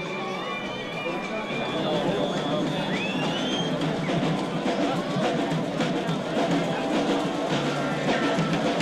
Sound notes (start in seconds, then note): 2.2 percussion music; 3.0 man whistling